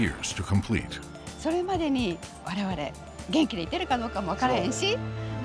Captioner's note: speaking Japanese